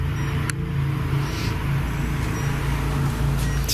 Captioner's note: beeping